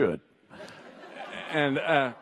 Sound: audience laughs

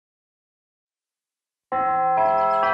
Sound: none

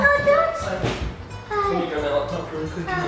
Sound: door shuts

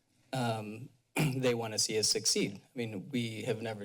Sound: clears throat

